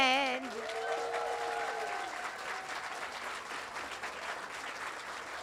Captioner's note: audience applauding and cheering